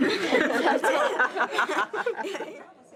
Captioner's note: laughter